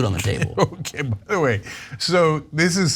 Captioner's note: laugh